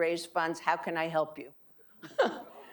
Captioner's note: laughing